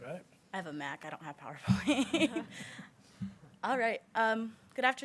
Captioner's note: chuckles